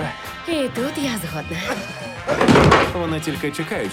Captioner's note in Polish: krztusi się